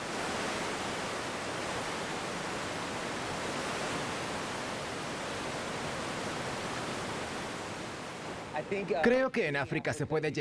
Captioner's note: oleaje